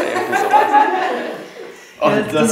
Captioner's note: Gelächter